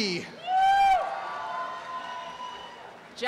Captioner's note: cheering and applause